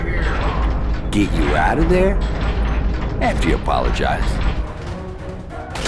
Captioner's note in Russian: голос приглушённый и создаёт отзвуки; голос ясный